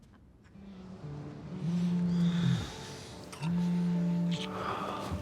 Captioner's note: phone vibrating